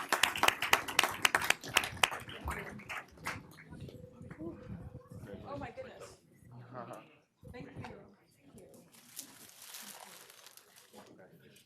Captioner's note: applause